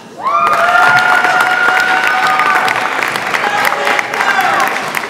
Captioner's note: audience applauds and cheers